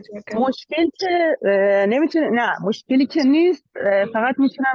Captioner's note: speaking in Dari